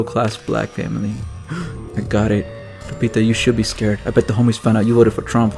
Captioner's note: gasp